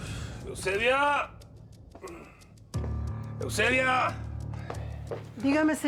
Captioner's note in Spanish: ruido al entrar